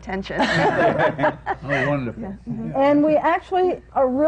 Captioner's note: laughter